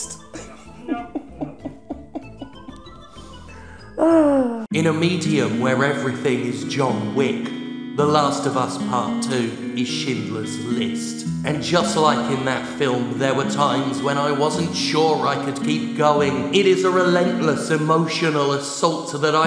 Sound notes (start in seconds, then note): 0.3 Jim chuckles; 4.6 dramatic reading